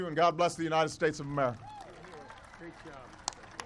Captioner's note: applause